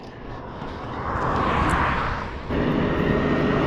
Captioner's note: vehicle whooshes; tractor whooshes